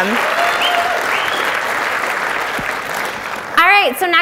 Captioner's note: audience applauds